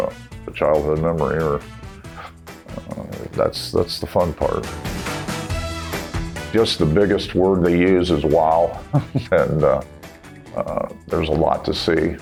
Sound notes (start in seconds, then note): 8.8 laughs